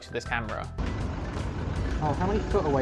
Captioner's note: van engine sound